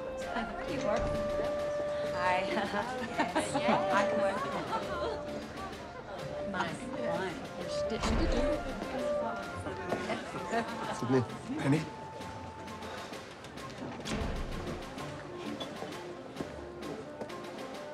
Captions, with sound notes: Hi. Yes. [chattering] My, my. Your stitching... - Sidney. - Manny.